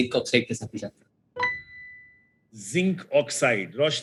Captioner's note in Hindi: नोटिफ़िकेशन की आवाज़